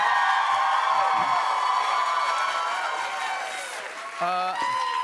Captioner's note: cheers and applause